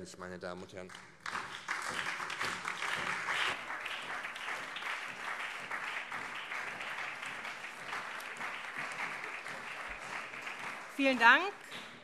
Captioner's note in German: Beifall SPD, CDU und BÜNDNIS 90/DIE GRÜNEN